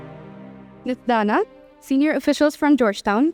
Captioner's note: speaks in foreign language